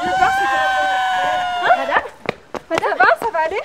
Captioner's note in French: Hurlements